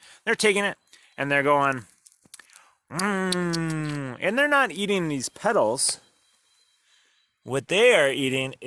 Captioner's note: eating sounds